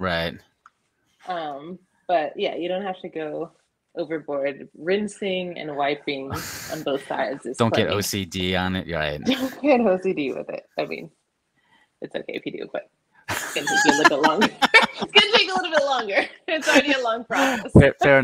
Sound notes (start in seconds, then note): 13.3 laughs; 16.3 both laughing